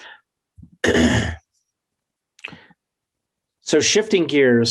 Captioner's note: clears throat